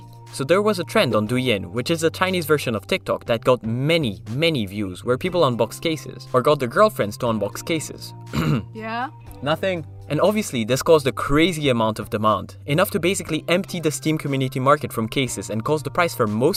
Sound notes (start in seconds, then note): 8.2 cough